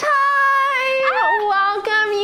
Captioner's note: happy noise